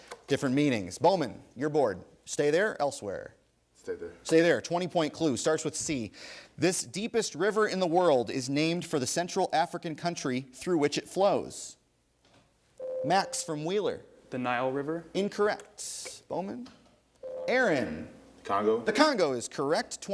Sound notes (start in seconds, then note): 12.8 ding; 17.2 ding